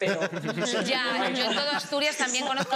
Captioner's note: laughs